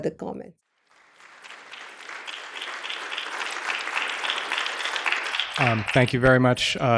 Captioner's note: applause